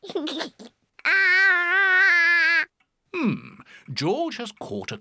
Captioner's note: giggles